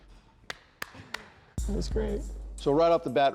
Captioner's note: claps